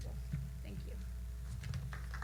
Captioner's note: applause